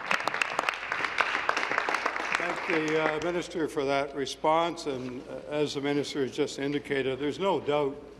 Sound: applause

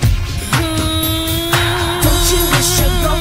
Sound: vocalizes

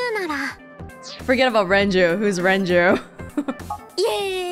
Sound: chuckles

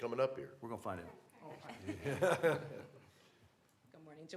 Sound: laughter

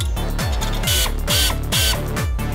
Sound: air-powered drill, somehow meeting the beat

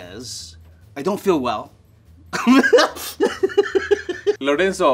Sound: laughs

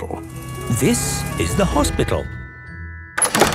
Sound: siren sounding

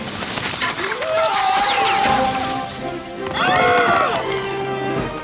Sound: screaming; screaming

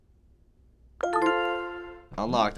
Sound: chime

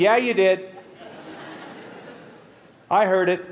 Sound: laughter

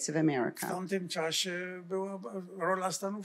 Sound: foreign language

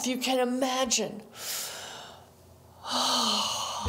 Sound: inhales; exhales

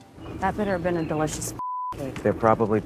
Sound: beep

